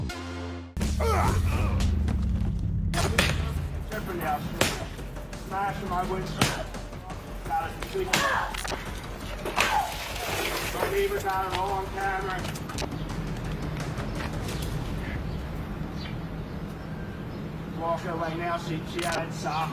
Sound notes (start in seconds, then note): 0.8 men grunting; 7.4 woman grunts angrily